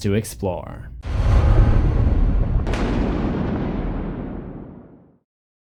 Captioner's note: thunder